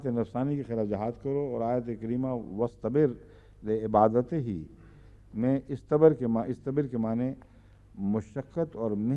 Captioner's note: Arabic